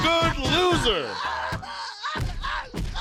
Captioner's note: screaming and crying